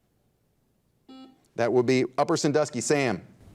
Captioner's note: buzzer dings